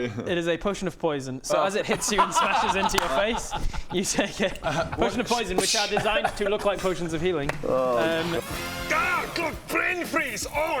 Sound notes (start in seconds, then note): 2.0 very smug laughter